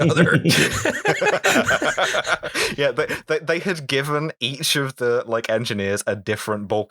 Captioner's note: laughter